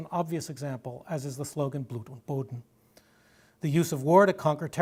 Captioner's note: german